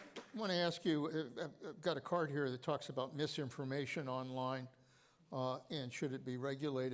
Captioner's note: applause